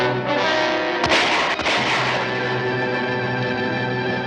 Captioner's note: gun shots ring out!